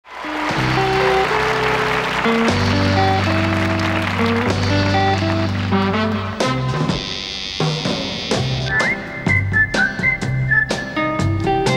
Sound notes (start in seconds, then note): 0.0 audience cheering; 0.2 upbeat music